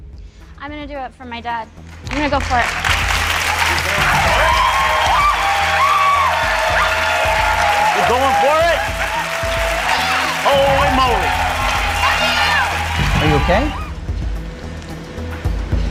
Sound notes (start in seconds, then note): 3.5 audience cheering and applauding; 12.6 suspenseful music